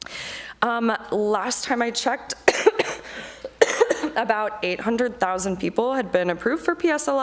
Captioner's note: coughs